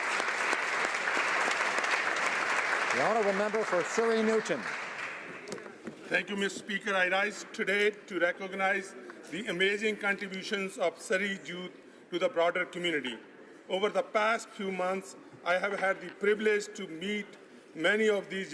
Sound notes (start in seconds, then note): 2.0 applause